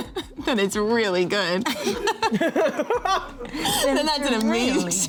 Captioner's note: laughs; all laughing